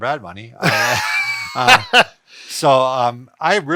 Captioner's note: laughs